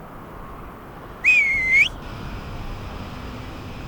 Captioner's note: whistle